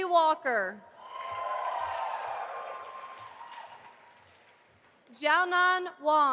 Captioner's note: audience applauding